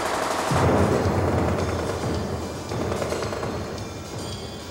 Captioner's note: explosion booming